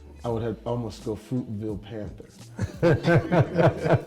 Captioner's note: Bryan and Michael laughing